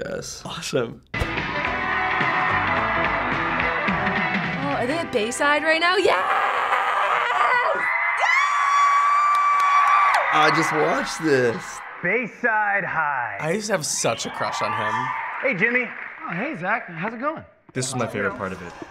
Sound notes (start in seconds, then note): 1.2 campy '80s music; 7.0 cheering along with audience